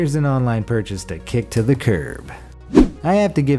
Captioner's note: air whooshes